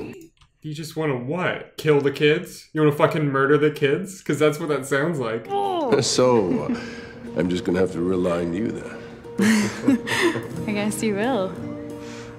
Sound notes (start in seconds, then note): 9.4 laughs